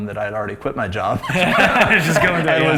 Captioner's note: laughs